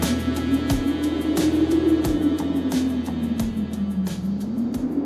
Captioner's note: wind blowing